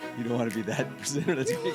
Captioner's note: laughs